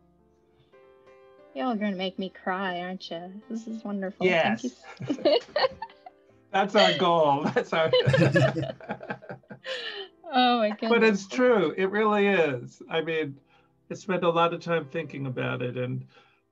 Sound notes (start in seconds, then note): 9.2 laughing